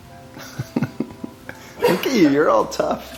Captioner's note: laughs